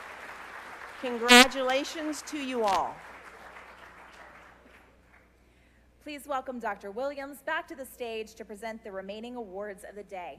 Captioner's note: applause